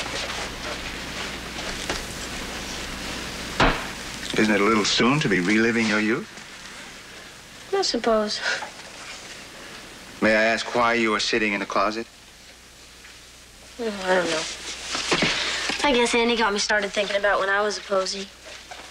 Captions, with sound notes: (KNOCKS) Isn't it a little soon to be reliving your youth? I suppose. May I ask why you're sitting in the closet? I don't know. I guess Annie got me started thinking about when I was a Posie.